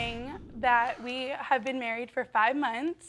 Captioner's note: sighing